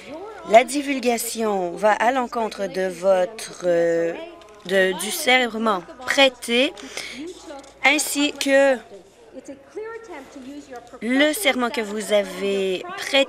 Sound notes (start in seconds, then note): none